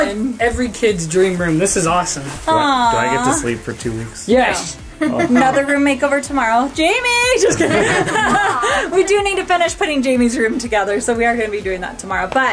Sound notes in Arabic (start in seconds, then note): 7.4 يضحك